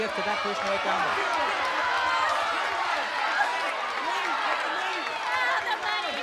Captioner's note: shouting